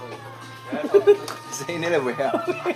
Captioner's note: OR KIA chuckles